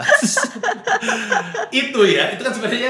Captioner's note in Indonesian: tertawa